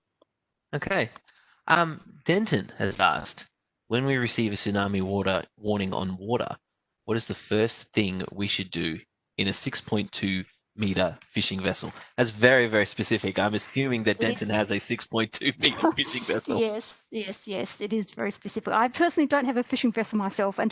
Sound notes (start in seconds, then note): 15.4 laughs